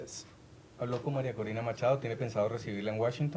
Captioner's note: speaking spanish